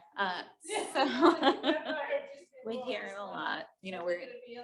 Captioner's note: laughs